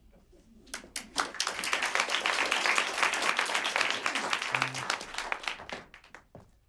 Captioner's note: applause